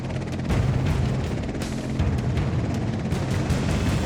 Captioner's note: helicopter blades whirring; dramatic instrumental music